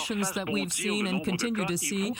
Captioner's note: speaking French